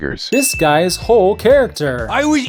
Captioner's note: ding